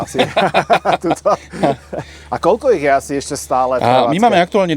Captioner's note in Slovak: smiech